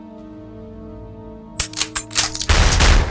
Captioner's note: shotguns %*#